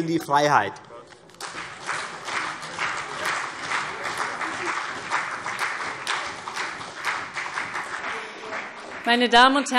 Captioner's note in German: Beifall CDU und vereinzelt BÜNDNIS 90/DIE GRÜNEN